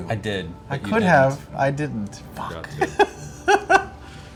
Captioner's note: laughs